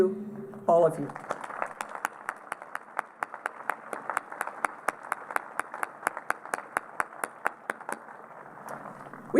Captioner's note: applause